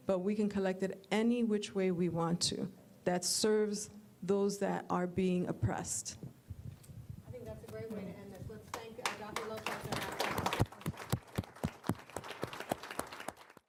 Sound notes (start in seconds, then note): 8.7 applause